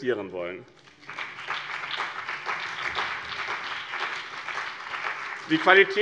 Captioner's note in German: Beifall BÜNDNIS 90/DIE GRÜNEN und vereinzelt CDU